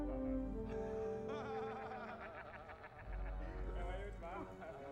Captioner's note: laughter